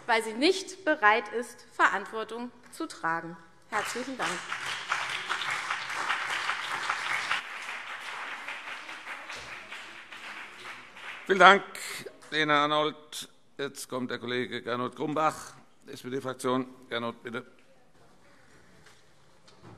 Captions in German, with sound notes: weil sie nicht bereit ist, Verantwortung zu tragen. - Herzlichen Dank. [Beifall CDU und BÜNDNIS 90/DIE GRÜNEN] Vielen Dank, Lena Arnoldt. - Jetzt kommt der Kollege Gernot Grumbach für die SPD-Fraktion. Bitte.